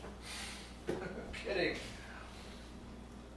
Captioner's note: chuckling